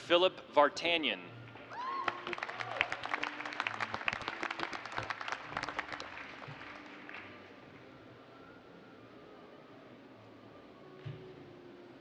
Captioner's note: cheers and applause